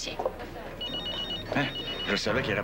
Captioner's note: sonnerie du portable